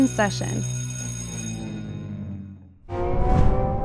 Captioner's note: bell ringing